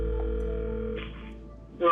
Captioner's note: phone ringing